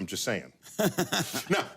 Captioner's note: laughing